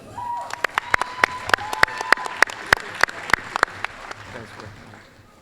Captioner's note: applause, cheering